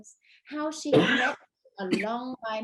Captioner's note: coughing drowns out speaker